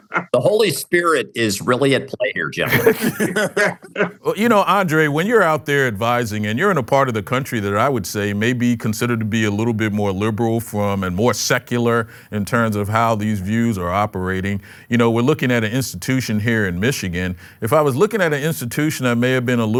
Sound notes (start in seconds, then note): 2.6 laughter